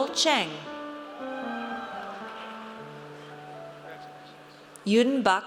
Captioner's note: audience cheers